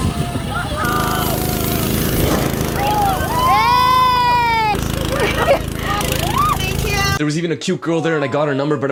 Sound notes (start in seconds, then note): 2.7 cheering